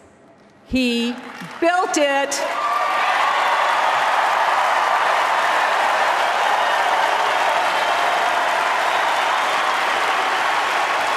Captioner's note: applause and cheers